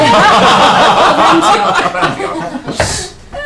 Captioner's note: laughter